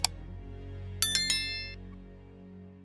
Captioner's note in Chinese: 铃声响起